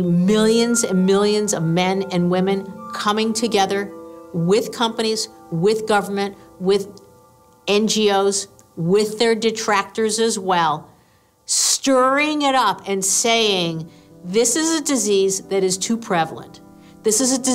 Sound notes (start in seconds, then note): none